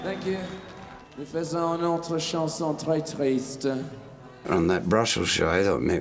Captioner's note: speaking belgian